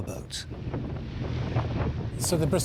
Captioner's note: wind gushing